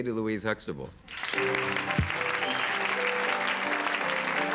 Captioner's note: crowd clapping